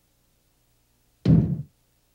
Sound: thud

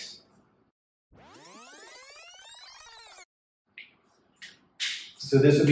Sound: fast forward buzzing

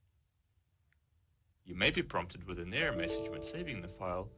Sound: chime

